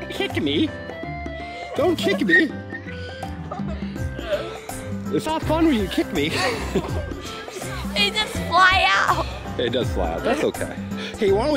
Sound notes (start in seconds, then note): 1.6 laughing